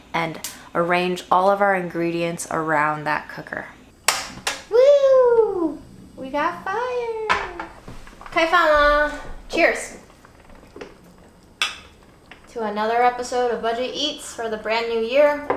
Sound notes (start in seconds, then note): 4.0 cooker clicking; 7.3 pot tapping; 8.4 speaking Chinese; 11.6 cups clinking